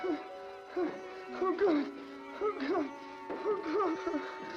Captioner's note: moaning in pain; moaning in pain; ominous music